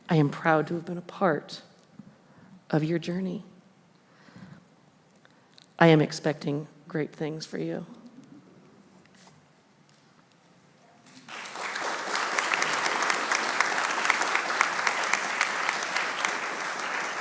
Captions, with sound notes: I am proud to have been a part of your journey. I am expecting great things for you. (audience applauding)